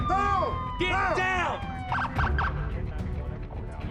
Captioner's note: police sirens wailing